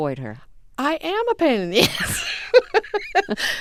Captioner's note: soundbite of laughter